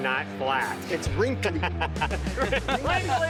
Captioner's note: group laughing